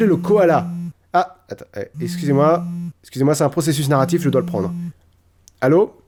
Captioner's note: phone rings